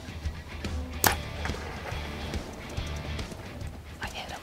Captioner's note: upbeat rock music continues; bow cracking